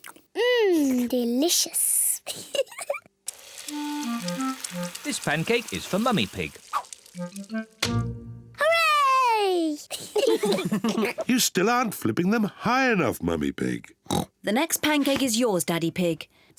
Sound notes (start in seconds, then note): 2.4 giggles; 9.9 kids and mummy pig laugh; 14.0 oinks